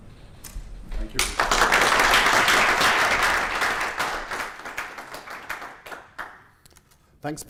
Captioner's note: applause